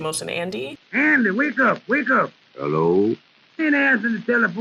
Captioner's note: radio